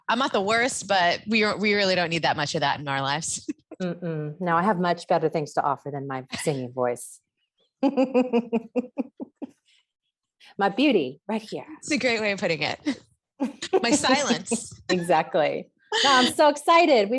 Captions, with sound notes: - I'm not the worst, but we really don't need that much of that in our lives. - No, I have much better things to offer than my singing voice. (laughs) My beauty right here. - It's a great way of putting it. My silence. - Exactly. I'm so excited.